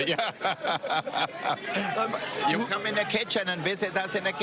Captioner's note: laughter